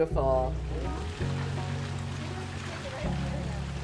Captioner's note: water running